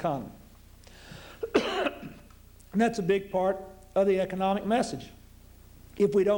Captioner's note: coughs